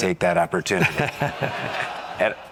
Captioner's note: audience laughs